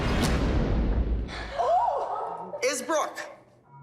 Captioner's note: gasps; tense music